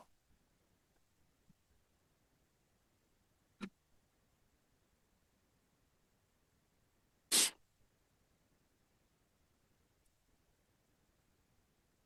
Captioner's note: silence